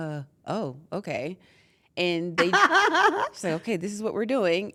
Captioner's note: laugh